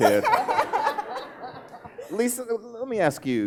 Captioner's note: laughing